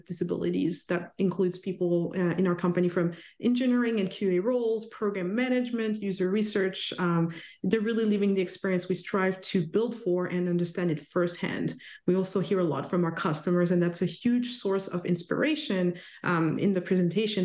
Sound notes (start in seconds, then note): none